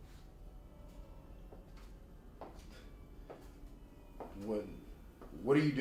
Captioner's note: high heel footsteps approach